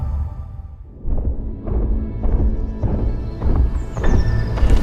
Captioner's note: massive hoofbeats